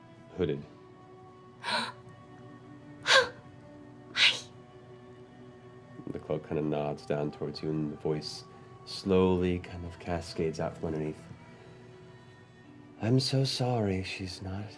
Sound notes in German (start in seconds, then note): 1.6 schnappt nach Luft